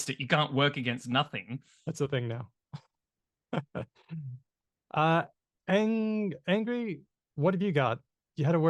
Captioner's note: laughs